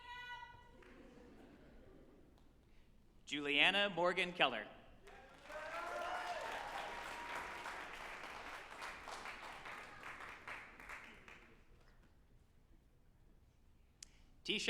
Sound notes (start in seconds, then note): 5.0 group applauding and cheering